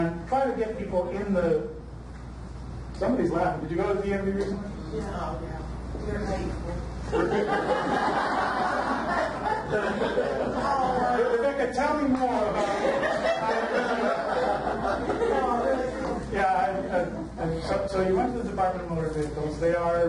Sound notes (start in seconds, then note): 7.1 audience laughs; 12.5 audience laughter drowns out speaker